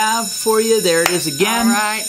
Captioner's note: school bell